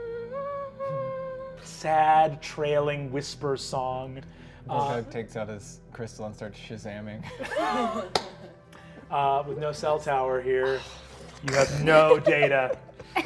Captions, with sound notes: sad, trailing, whisper song. - Gorgug takes out his crystal and starts Shazaming. (all chuckling) - With no cell tower here, you have no data.